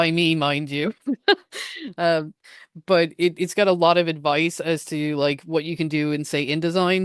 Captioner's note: laughs